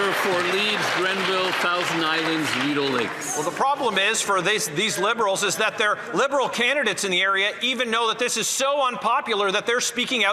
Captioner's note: some Applause